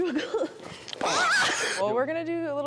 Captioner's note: Lyra screams